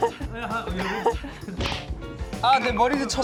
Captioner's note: bonk